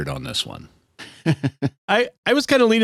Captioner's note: laughter